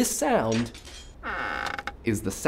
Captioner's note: creaking hinges